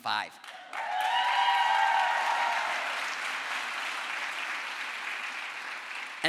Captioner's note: crowd applause